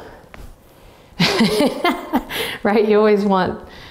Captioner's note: laughing